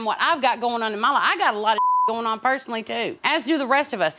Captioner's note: beep